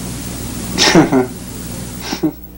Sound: laughs

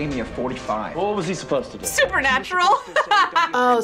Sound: laughs

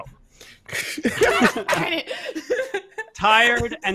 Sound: laughing

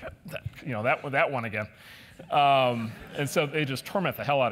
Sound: laugh

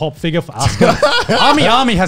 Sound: all laugh

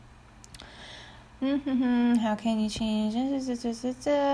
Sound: hums

